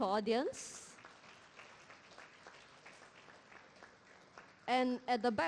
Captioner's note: applause